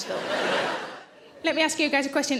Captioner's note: audience laughs